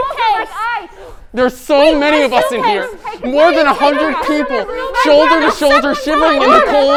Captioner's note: people continue to panic in the background